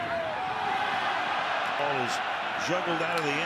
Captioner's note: cheers, applause